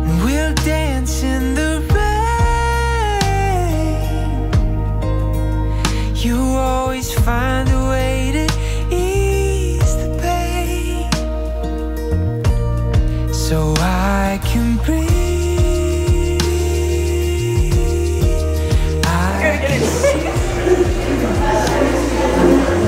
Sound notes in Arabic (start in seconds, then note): 19.1 تضحك